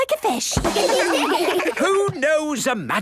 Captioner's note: children laugh